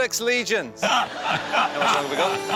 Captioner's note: laughter